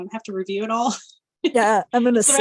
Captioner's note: chuckling